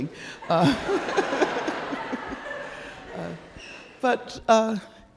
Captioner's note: audience laughing